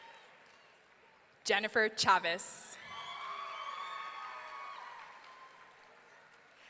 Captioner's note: audience cheering